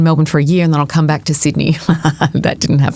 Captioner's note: chuckles